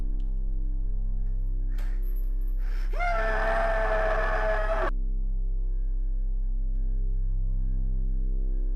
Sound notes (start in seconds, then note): 1.7 clanking; 2.7 screaming